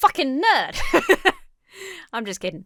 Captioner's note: laughs